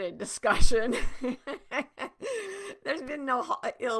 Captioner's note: laughing